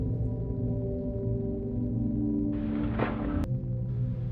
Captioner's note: door clicks open